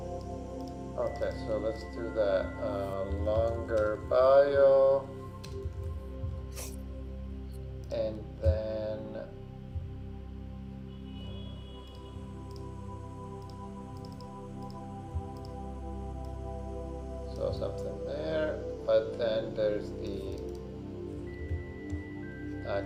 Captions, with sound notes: - Okay, so let's do that longer bio. And then, (mouse clicking) so something there. But then there's the